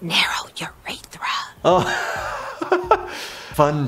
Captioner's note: laughing